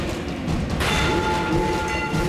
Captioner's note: metal clangs